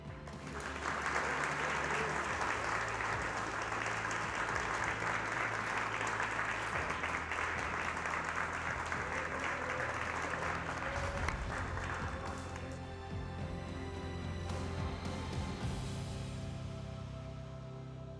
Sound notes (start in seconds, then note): 0.0 audience claps; 12.4 upbeat music